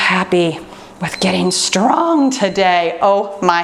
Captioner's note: timer beeps